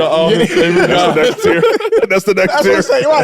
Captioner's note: group chattering and laughing